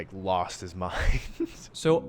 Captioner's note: chuckles